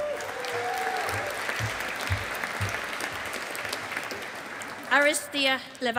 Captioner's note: audience applauding